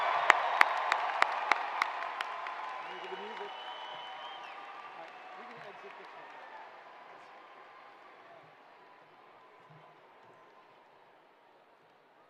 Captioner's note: cheers and applause